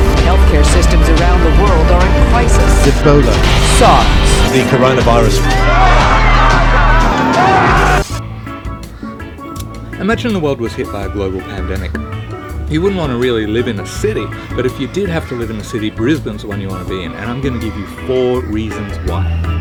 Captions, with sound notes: Health care systems around the world are in crisis. Ebola SARS The Corona Virus (screaming in panic) Imagine the world was hit by a global pandemic. You wouldn't wanna really live in a city, but if you did have to live in a city Brisbane's the one you want to be in and I'm gonna give you four reasons why.